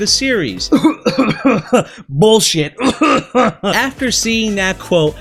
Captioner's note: cough